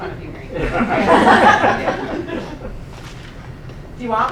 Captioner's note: laughing